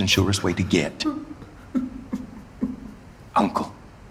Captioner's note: soft crying